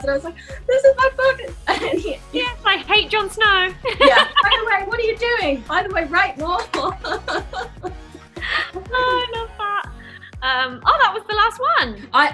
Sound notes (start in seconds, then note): 3.8 laughter; 6.6 laughter